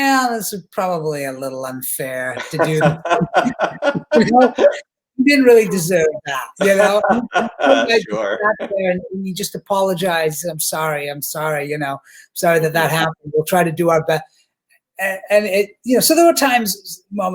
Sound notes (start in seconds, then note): 2.3 both laughing; 5.7 laughing